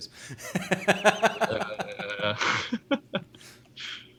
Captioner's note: laughing